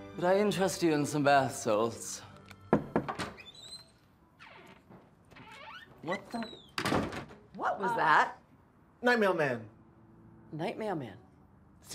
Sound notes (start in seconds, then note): 2.7 Kyle knocks